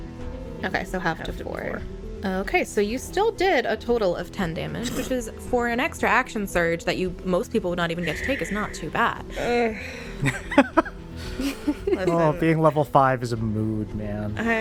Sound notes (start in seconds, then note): 9.4 laughter